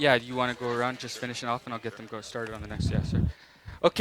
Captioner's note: laughing